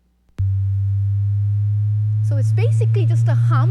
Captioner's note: buzzing